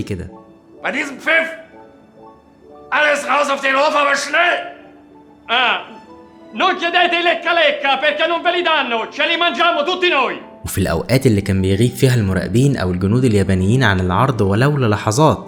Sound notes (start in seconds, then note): 0.9 German Language; 6.2 italian Language